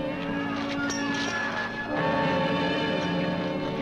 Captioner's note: all shouting